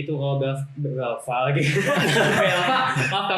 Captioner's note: laughter